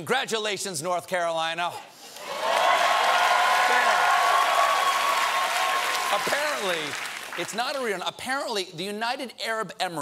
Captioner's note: cheers and applause